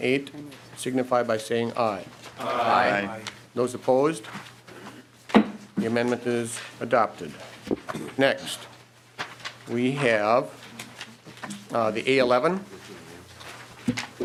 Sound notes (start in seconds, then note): 5.8 chorus of ayes